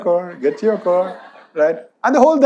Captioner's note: audience laughs